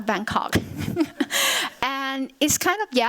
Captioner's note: chuckles